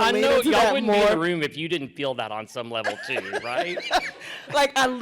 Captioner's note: laughter